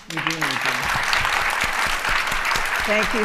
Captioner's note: applause